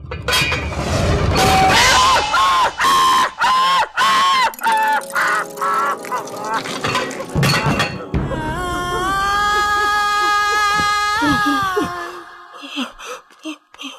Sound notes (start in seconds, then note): 1.3 screaming badly; 9.1 sad music